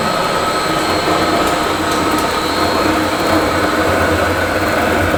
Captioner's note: mill grinding